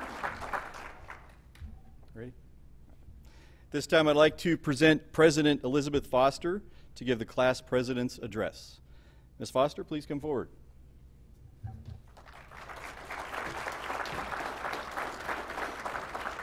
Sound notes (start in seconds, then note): 12.0 applause